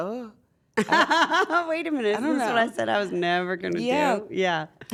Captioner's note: laugh